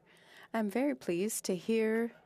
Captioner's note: speaking French